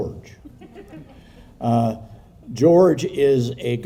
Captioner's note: people chuckling